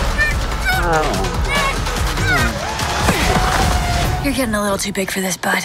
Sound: grunting

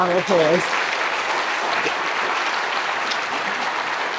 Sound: audience applause

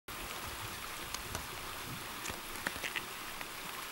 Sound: water rolling

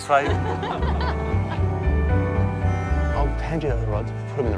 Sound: both laughing

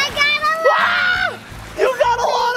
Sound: screams

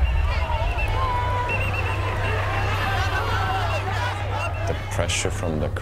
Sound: shouting continues

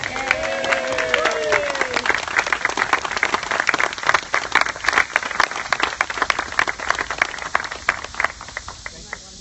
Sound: applause

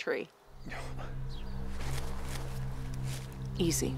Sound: rustling

